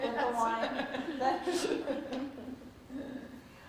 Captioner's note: laughter